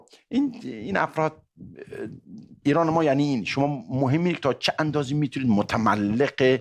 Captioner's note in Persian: گلویش را صاف می‌کند